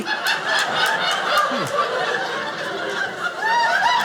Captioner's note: audience laughing